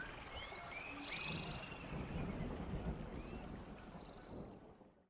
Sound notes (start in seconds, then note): 1.8 thunder rumbling